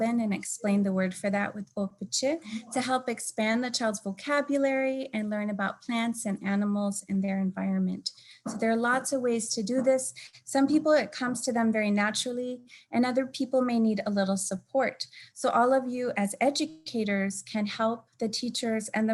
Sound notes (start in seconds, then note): 1.9 speaking in native language